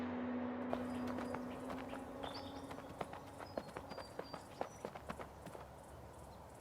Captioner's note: footsteps